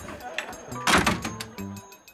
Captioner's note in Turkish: Kapı kapanma sesi